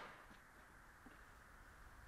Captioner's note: gunshot popping